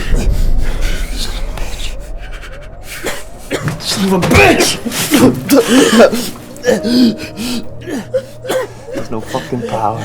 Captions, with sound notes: Son of a bitch... Son of a bitch! [Ryder coughs up blood and gasps] There's no fuckin' power...